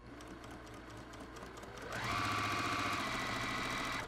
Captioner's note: sewing machine humming